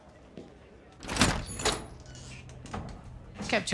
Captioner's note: door opens